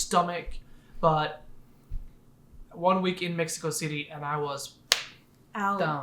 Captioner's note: claps